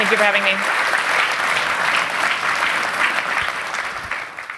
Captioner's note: applause